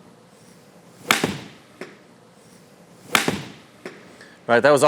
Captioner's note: club thwacks